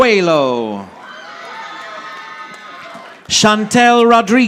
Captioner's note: audience applauding